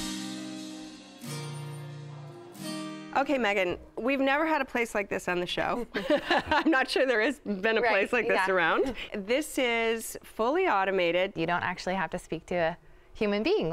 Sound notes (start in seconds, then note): 5.9 laughs